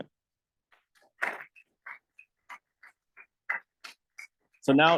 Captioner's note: audience applauding